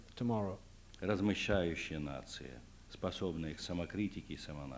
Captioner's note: non-english speech